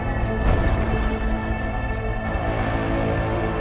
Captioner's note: ship thuds